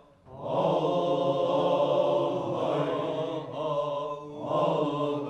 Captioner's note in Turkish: Hep bir ağızdan